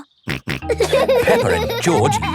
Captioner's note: laughing; snorts